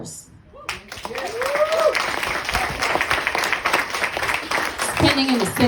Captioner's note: applause